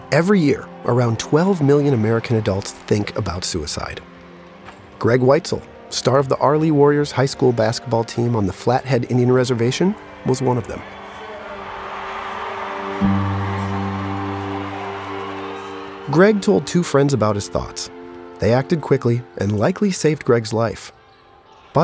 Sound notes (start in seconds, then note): 11.4 crowd cheering